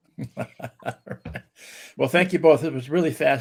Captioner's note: chuckles